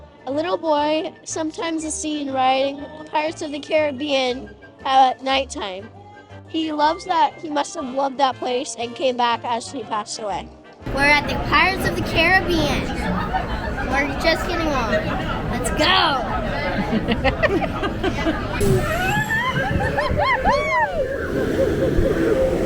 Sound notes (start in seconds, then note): 16.1 mom and Granny giggle; 18.9 whoops and laughs